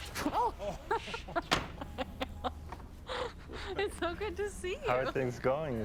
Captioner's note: laughs